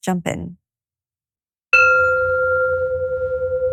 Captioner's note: gong chimes